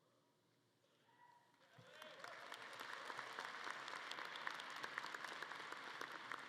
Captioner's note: audience cheering and clapping